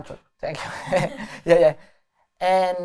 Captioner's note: laughter